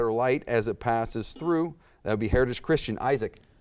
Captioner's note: buzzer beeps